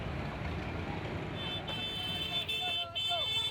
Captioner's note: horns honking